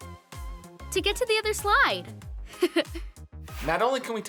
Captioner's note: laughs